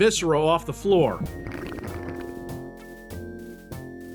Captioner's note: drinking sound?